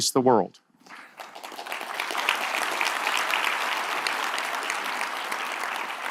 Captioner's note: audience applause